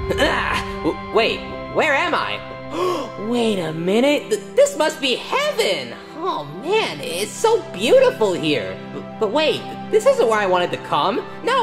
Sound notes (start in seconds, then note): 2.6 Yoshi gasping